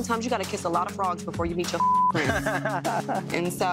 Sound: beep; laughs

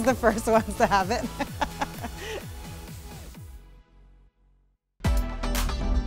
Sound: upbeat music; laughs; upbeat music

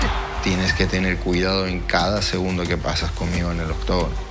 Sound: Topuria speaking in Spanish

